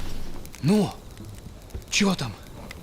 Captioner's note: fire crackles